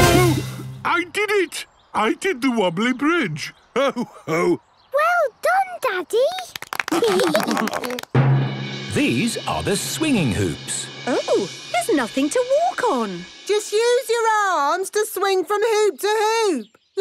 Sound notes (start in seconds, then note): 6.2 clapping, laughing